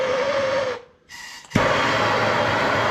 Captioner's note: drilling